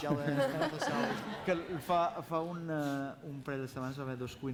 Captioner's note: non-english speech